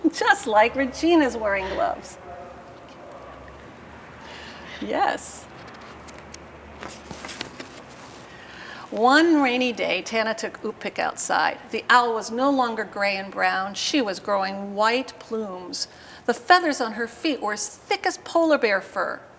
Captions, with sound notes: Just like Regina's wearing gloves. Yes. [Paper rustling] One rainy day, Tanna took Ukpik outside. The owl was no longer gray and brown. She was growing white plumes. The feathers on her feet were as thick as polar bear fur.